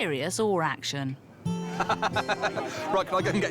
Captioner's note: laughs